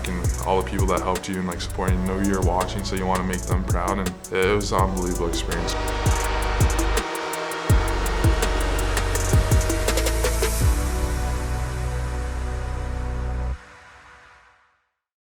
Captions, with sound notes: And all the people that helped you and, like, supporting, you know, you're watching. So you wanna make them proud. And it was a unbelievable experience. (horn blowing) (upbeat music fades)